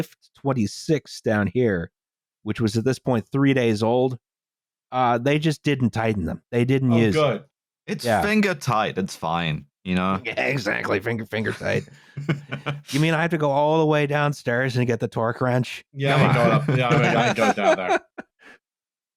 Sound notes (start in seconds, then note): 11.4 laughs; 18.6 laughs